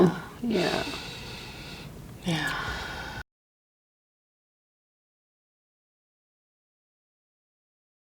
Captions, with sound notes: - (laughs) You know. - Yeah. (client takes deep breath) Yeah.